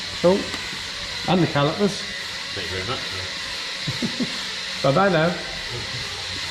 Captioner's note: workshop noise